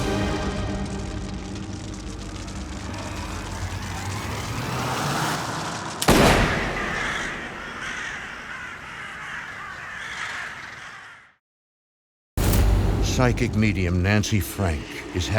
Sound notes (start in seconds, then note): 4.3 gun shot